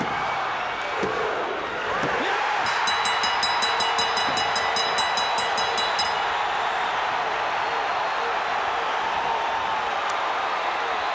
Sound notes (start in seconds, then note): 2.6 bell dings; 8.5 crowd cheers